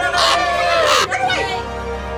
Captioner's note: sound FX: Raven cawing